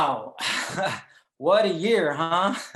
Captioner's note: laughing; sighing